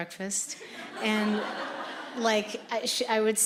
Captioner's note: audience laughing